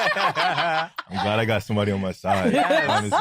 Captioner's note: laughter